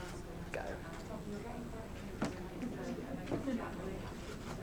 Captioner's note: background chatter